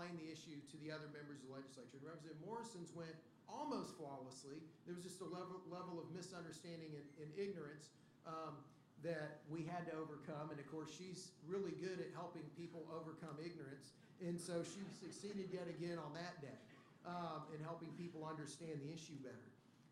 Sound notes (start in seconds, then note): 14.7 laughter